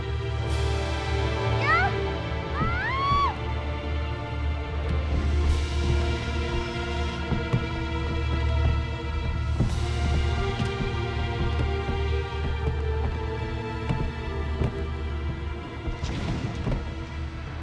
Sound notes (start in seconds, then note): 2.6 screams